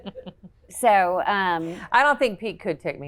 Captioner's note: laughs